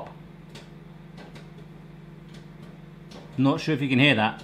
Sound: popcorn popping

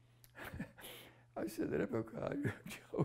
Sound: laughs

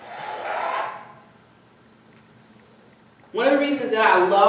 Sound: audience cheering fades

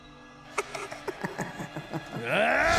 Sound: laughs; yells

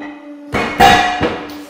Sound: loud bang

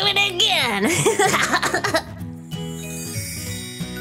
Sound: fly laughs; light upbeat music

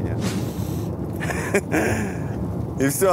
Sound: laughs

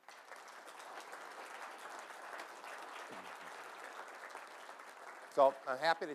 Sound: applause

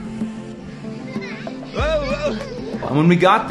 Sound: children talking and laughing

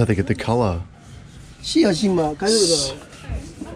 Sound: speaks in foreign language

